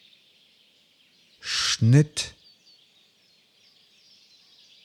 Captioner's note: german